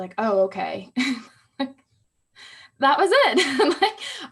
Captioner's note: laughing